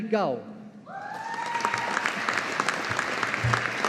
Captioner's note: audience applauding